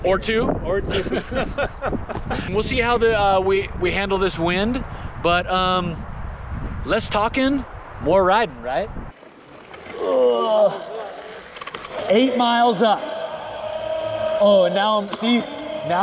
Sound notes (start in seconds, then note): 0.9 laughs; 10.0 groans